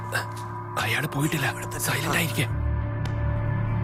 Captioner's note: Whispers